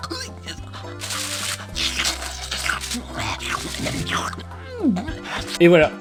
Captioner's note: Plop slurping the cake